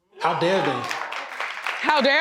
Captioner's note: audience applauds